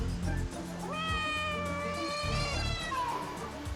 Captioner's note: cat meows